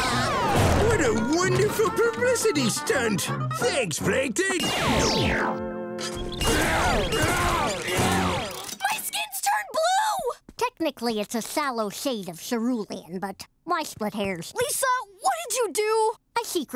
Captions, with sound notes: [laughing] What a wonderful publicity stunt! Thanks, Plankton! [grunting] My skin's turned blue. Technically, it's a shallow shade of cerulean, but why split hairs? Lisa, what did you do?